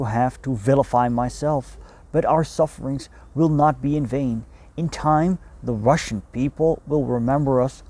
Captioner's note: Russian